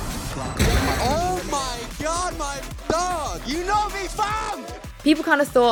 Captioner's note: crashies